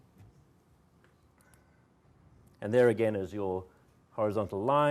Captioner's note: none